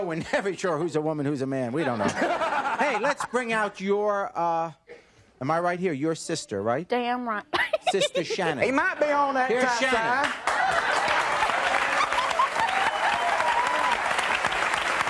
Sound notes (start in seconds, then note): 1.8 laughing; 7.6 laughs; 11.9 audience cheering